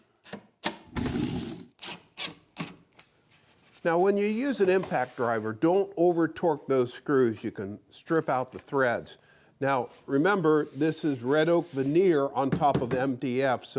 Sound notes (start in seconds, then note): 1.0 impact driver whirring